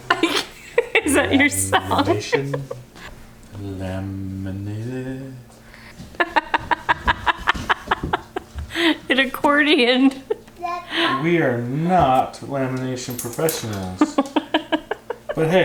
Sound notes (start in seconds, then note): 0.0 laughs; 6.4 cackles; 14.0 giggles